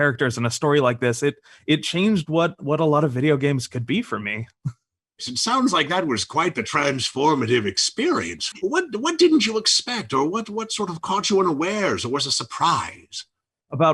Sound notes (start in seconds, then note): none